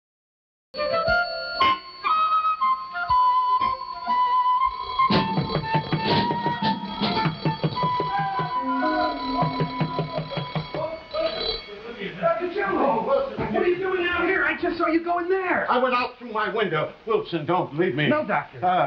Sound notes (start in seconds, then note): 0.2 intriguing music; 5.1 door banging; 5.4 bell ringing